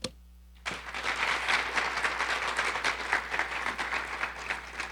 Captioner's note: audience applauding